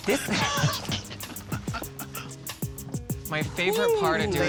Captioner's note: chuckles